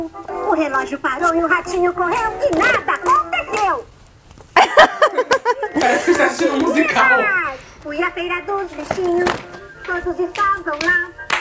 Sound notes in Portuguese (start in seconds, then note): 4.5 risos